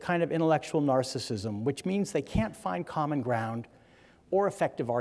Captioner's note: none